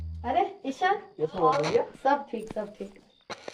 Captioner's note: FM Tuning in Background